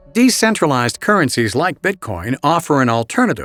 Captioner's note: voiceover